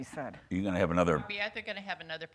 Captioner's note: chattering